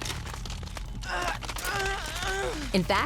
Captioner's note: moaning